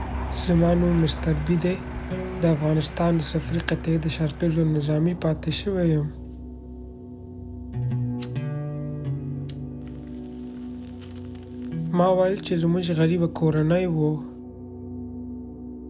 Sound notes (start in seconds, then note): 7.8 flick of a lighter; 9.8 cigarette crinkles